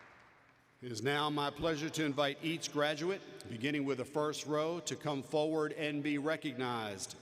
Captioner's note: applause